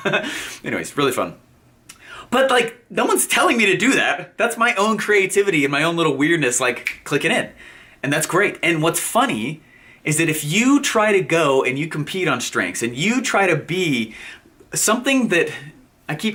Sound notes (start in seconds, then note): 0.0 chuckles; 6.8 fingers snap